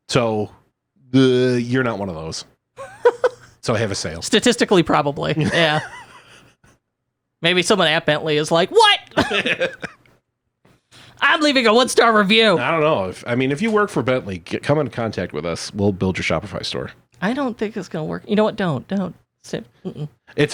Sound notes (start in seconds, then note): 2.8 laughing; 5.3 laughing